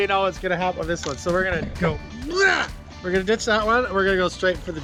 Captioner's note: grunts